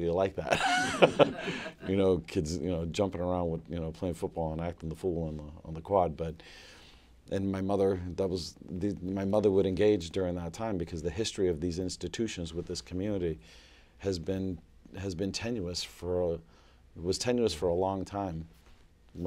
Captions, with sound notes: like that. [LAUGHTER] Kids jumping around, playing football, and acting the fool in the quad. My mother would engage during that time, because the history of these institutions, with this community, has been tenuous. It was tenuous for a long time.